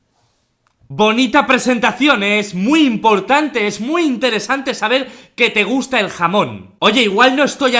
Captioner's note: sarcastic tone